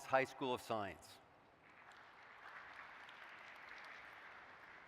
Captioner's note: applause